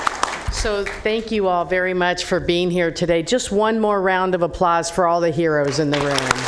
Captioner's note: applause